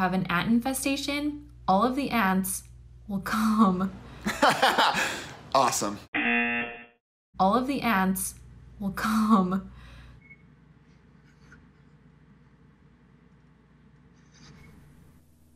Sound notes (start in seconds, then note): 4.2 laughs; 6.1 buzzer; 7.3 voice-over